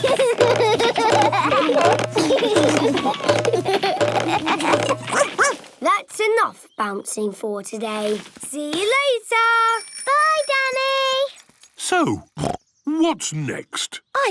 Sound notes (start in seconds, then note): 0.0 all laugh; 5.1 barks; 12.4 snorts